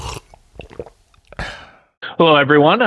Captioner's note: person slurps; person sighs